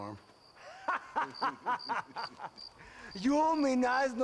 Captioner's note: laughs